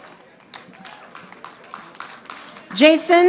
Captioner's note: audience applauding